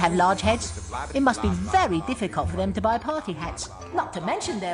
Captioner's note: slowly becomes reverbed